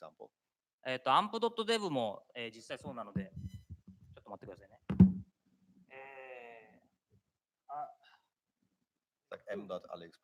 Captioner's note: speaking japanese